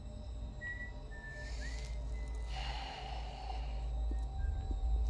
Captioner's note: sighs